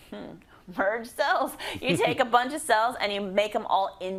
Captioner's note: laugh